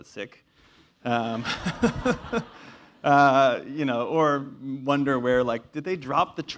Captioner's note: laugh